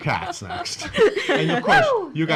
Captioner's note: laughing